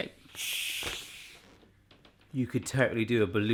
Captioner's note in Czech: unikání vzduchu